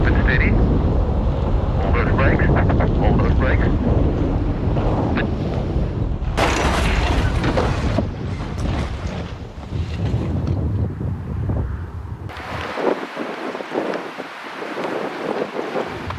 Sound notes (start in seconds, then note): 6.4 wheelchair thuds; 12.7 wind rustling